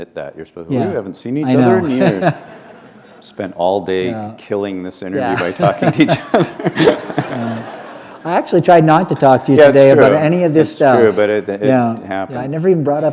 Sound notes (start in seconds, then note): 4.3 chuckle; 5.3 laughter